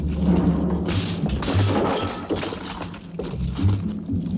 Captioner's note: chains rattling